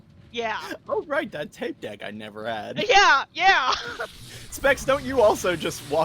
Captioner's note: laughs